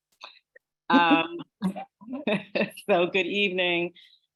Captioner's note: laughs